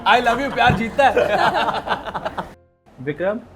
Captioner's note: laughs